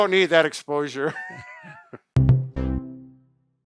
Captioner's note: both laugh; musical flourish